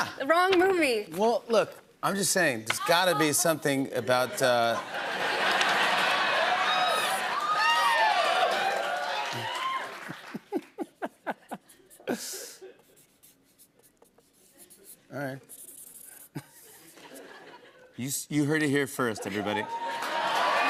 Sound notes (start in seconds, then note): 4.0 laughter; 6.9 cheers and applause; 10.0 laughing; 19.4 cheers and applause